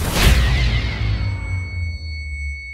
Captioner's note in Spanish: Timbre agudo